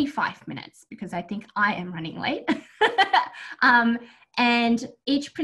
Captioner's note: laughs